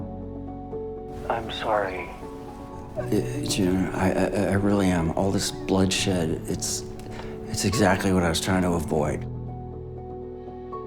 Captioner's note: voiceover